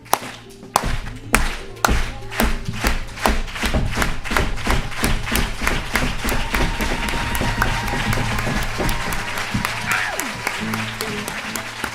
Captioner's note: applause